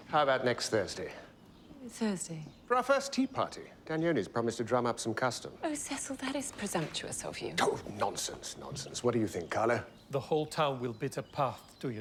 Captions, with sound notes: -Thursday? -For our first tea party. Danioni's promised to drum up some custom. Oh, Cecil. That is presumptuous of you. [scoffs] Oh, nonsense. Nonsense. What do you think, Carlo? The whole town will beat a path to your door.